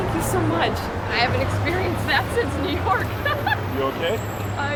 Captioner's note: laughing